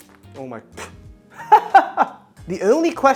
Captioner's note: laughs